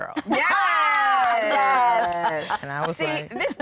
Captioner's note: laughter